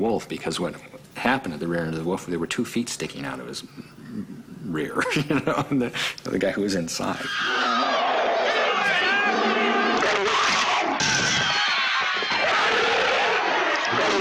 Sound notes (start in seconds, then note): 5.3 laughing; 9.1 growling